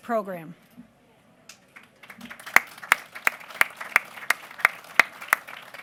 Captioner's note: applause